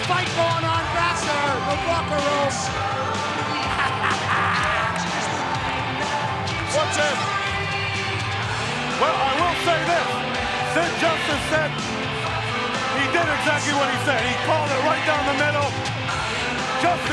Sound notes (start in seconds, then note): 2.6 upbeat music; 3.6 Roddy laughing